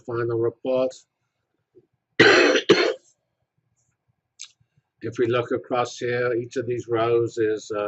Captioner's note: cough